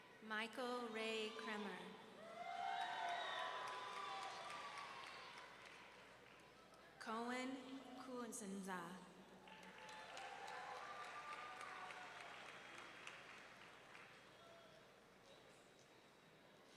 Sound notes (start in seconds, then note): 2.2 audience cheering; 9.5 audience cheering